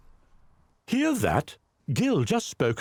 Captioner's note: voiceover